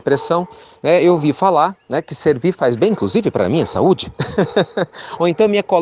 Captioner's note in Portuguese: Risos